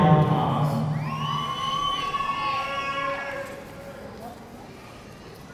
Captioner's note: audience cheering